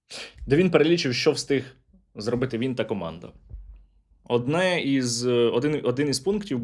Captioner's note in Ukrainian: сопіння